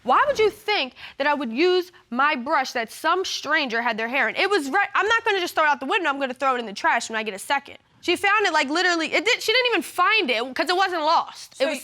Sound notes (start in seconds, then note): none